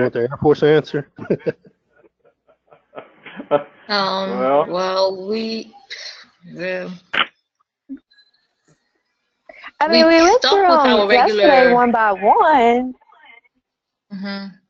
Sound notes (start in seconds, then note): 2.9 laugh